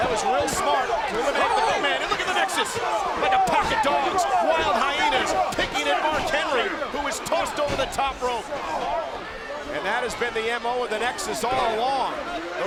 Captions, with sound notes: That was real smart. To eliminate the big man. And look at the Nexus! Like a pack of dogs, wild hyenas, picking at Mark Henry who was tossed over the top rope. (wrestlers chattering) (crowd yelling) And that has been the M.O. Of the Nexus all along.